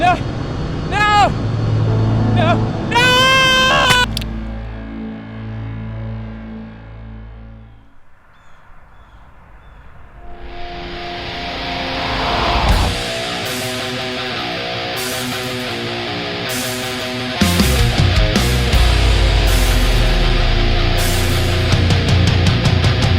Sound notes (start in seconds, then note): 4.1 ax chops; 10.6 heavy metal music; 19.2 heavy metal music continues